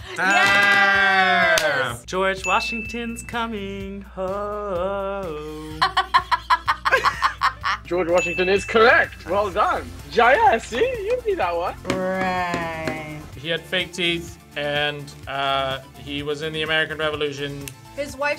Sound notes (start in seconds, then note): 5.4 both laugh